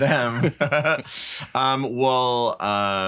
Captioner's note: both laughing